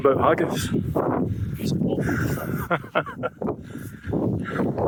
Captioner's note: laughter